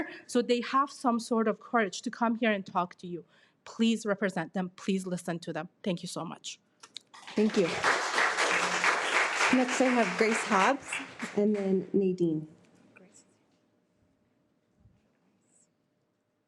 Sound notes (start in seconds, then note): 7.1 audience clapping